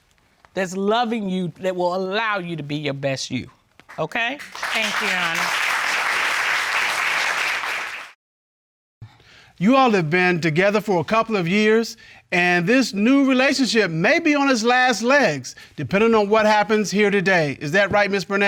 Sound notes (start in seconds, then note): 5.7 applause